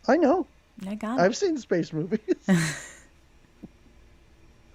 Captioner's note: laughs